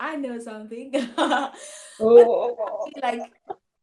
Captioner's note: laughs